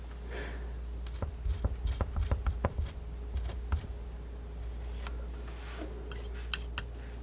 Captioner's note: tapping